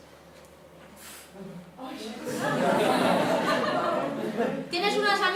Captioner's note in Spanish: el público rie